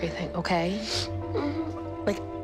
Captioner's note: sniffling